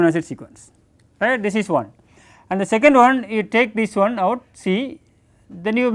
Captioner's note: click